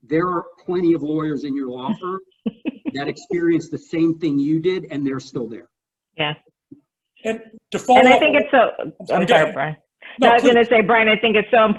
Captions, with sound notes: there are plenty of lawyers in your law firm. (laughs) That experience the same thing you did. And they're still there. - Yes. - And to follow-- - And I think it's so, okay Brian I was gonna say Brian it's so important